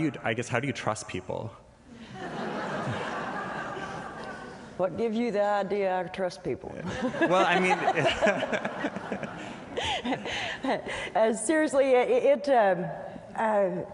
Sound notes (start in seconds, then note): 2.0 laughter; 10.5 laughter